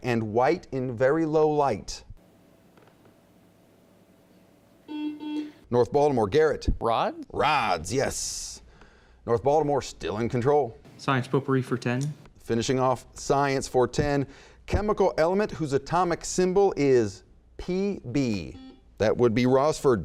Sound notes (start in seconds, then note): 4.9 buzzing; 18.4 buzzing